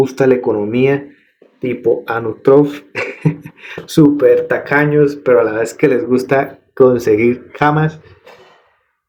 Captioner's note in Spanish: carraspeo; risas